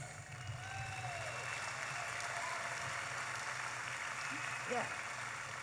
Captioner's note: audience applauding and cheering